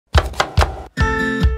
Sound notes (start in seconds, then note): 0.1 chopping